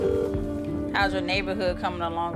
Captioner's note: phone ringing